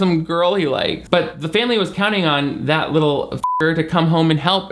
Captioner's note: beep